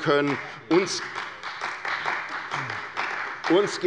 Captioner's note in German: Beifall bei der CDU